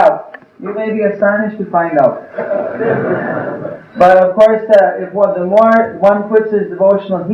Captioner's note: laughter